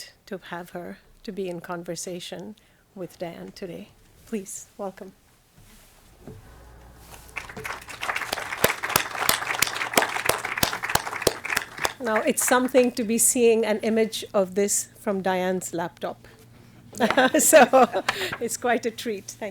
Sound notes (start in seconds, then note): 6.2 everybody applauds; 16.9 chuckles